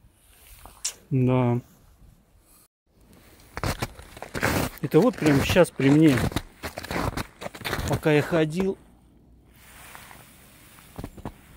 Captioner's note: snow crunching